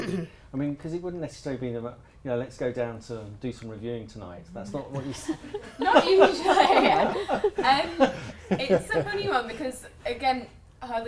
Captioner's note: laughter